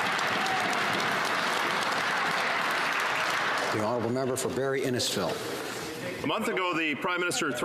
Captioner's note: some Applause